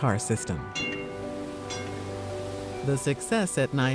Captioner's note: streetcar bell dinging